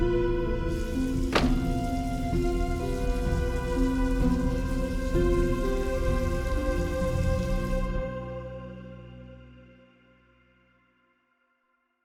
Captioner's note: door shuts